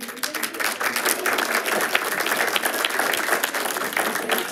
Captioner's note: group applauds